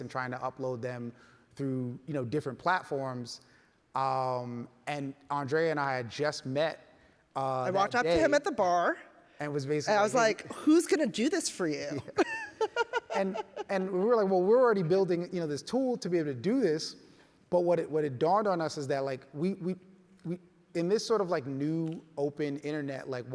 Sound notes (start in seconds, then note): 12.0 laughs